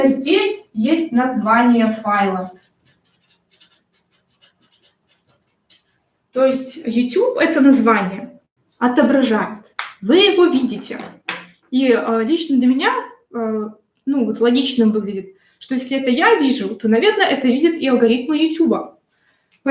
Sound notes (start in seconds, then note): 1.6 шелест маркера по бумаге